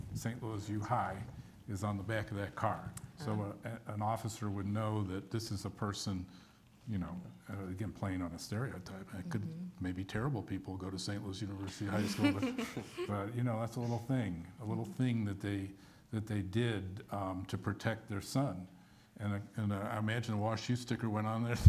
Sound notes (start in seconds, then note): 12.0 all chuckle